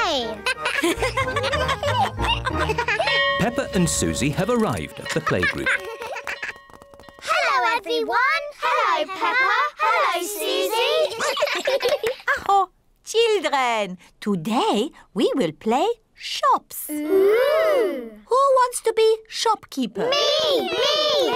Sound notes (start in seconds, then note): 0.4 all laugh; 10.9 claps hands; 11.1 all laugh; 12.1 exclaims